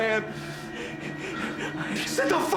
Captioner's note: gasping